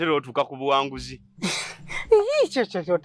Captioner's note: sighs